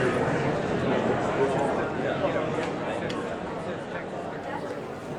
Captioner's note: audience talking among themselves